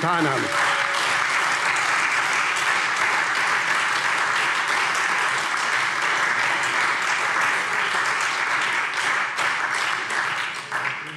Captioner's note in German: Beifall SPD, Freie Demokraten und DIE LINKE